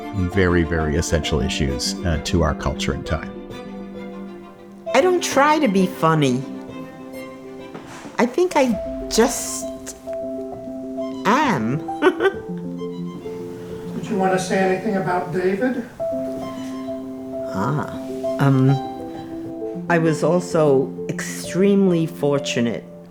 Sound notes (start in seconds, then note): 11.9 chuckles